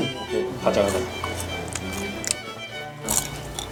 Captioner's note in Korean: 바삭 바삭 바삭